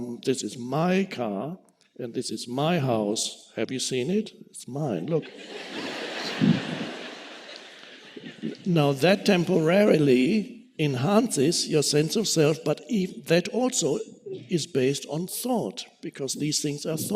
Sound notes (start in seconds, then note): 5.2 audience laughing